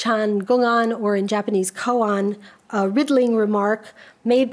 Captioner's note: speaks a foreign language